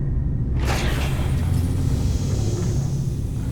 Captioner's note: hatch opening and hissing